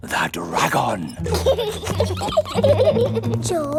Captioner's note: both giggling